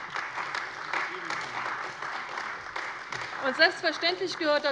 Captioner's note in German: Beifall bei der CDU und dem BÜNDNIS 90/DIE GRÜNEN